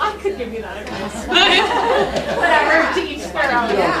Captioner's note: laughter